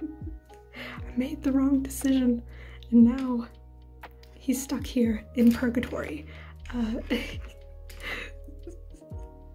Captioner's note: chuckle